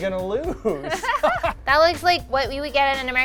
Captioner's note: laughing